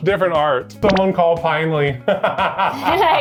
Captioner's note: laughs